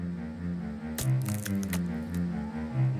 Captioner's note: wood creaking